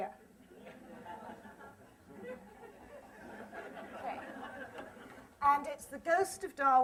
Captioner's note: laughter